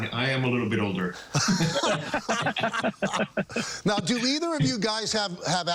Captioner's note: laughter